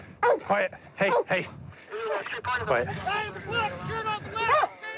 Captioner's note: barking